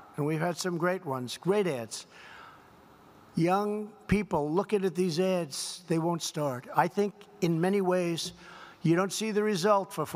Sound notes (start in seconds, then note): none